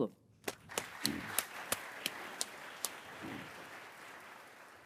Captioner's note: audience applauding